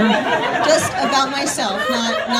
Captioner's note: audience laughing